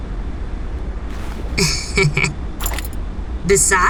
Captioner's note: Ash chuckles, sly